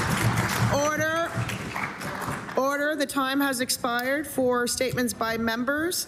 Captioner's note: applause